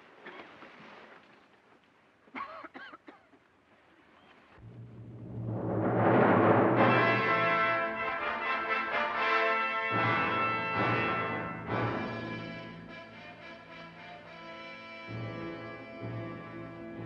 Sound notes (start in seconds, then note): 2.3 patron coughing; 4.6 dramatic orchestral score